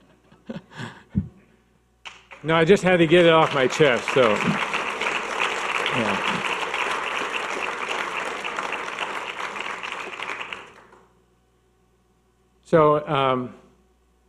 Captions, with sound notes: (audience laughing) No, I just had to get it off my chest. (audience clapping)